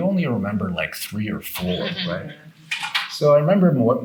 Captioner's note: participant laughing